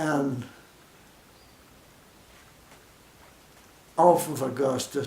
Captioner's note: silence